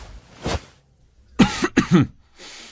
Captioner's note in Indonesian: batuk